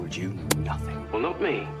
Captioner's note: hit marker sfx